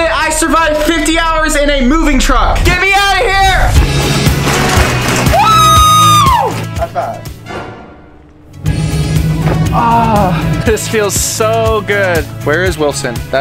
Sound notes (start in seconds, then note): 3.9 bright upbeat music; 5.2 screams